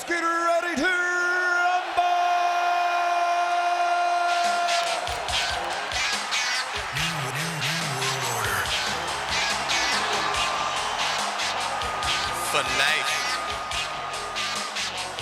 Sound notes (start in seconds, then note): 4.5 audience cheers; 4.5 upbeat music